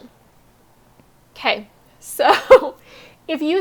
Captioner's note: laughs